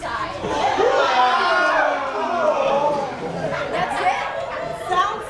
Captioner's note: the men yell together